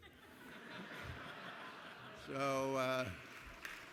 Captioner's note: laughter; applause